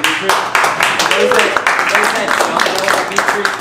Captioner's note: applauding